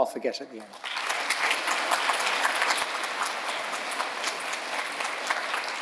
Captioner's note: audience applauding